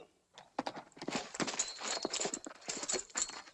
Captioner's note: horse trotting